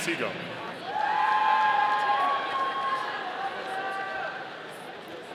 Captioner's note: audience cheering